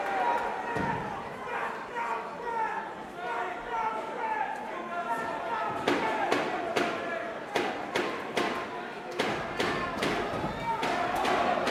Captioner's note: crowd chatter